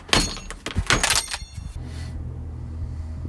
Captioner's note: banging